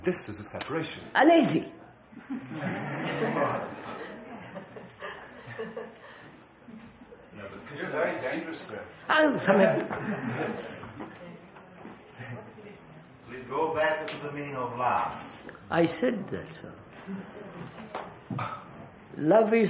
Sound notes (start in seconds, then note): 4.0 laughter